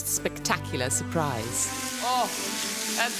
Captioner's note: food fries in pan